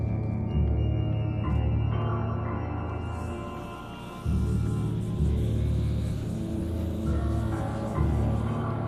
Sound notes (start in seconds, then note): 3.3 ghostly whispers